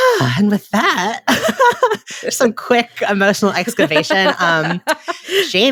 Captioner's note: sighs